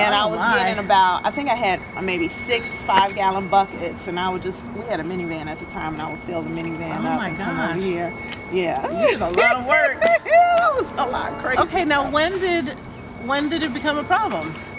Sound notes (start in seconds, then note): 8.9 laughter